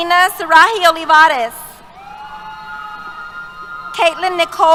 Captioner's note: cheers